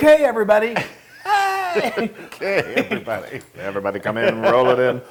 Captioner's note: laugh